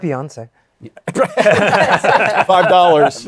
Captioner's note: laughter